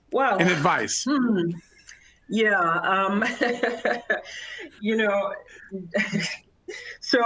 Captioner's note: laughter